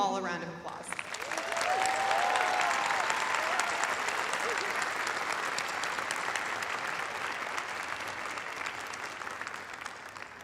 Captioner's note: applause